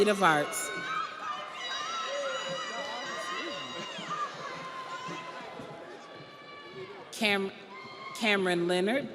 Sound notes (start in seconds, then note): 6.0 audience applauds; 6.0 audience cheers